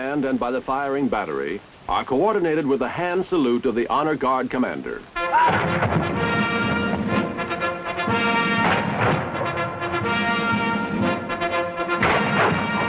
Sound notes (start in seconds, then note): 5.1 band playing; 6.2 cannon firing